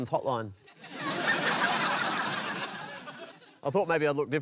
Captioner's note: laughter